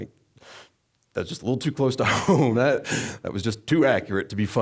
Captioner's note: laughing